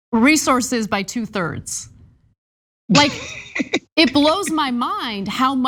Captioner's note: laugh